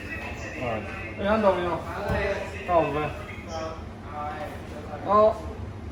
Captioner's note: speaking in foreign language